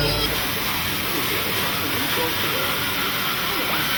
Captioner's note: tool buzzing